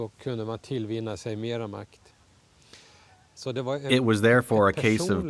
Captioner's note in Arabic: الصوت المنطوق باللغة الأجنبية